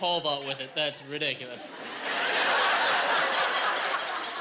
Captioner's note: laughing